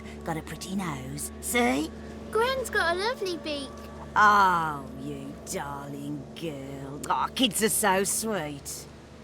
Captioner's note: none